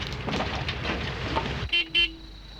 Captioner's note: horn honks